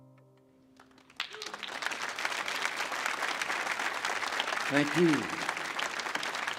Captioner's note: audience applauds